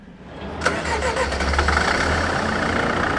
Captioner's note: engine starts